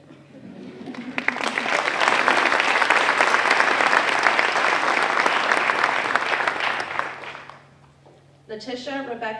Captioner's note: applause